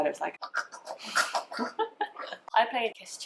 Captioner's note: gagging noises